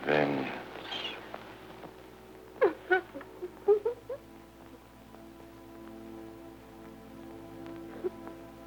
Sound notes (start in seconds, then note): 2.6 Isabella crying